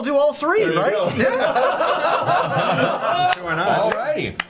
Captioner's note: all laugh